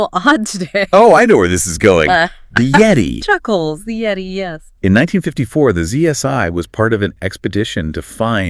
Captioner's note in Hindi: हँसी